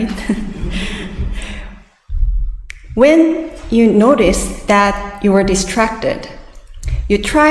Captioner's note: audience laughs